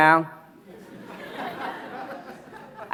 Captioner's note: audience laughs